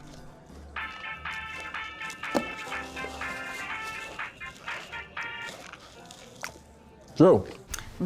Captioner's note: cell phone rings